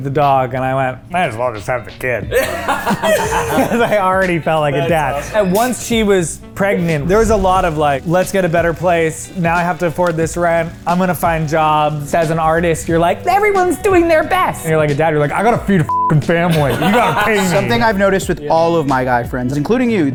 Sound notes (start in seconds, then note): 2.3 group laughing; 2.3 laughing; 16.4 group laughing